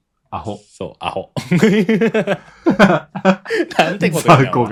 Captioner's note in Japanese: 笑い